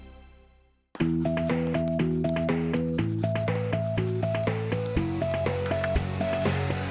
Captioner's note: uplifting music; pencil scratching